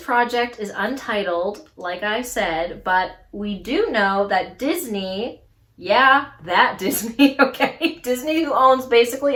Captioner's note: laughs